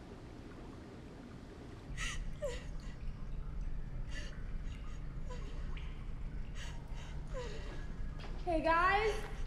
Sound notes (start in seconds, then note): 2.4 Nadia cries; 2.4 water runs